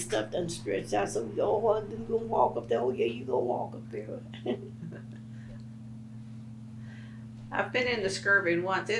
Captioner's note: laughs